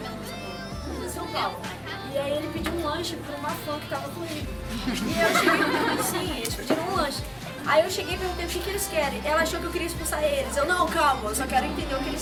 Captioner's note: laughs